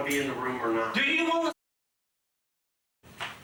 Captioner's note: muted